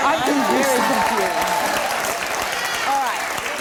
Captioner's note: laughter and applause